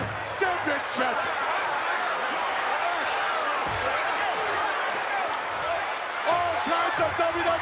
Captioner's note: crowd cheers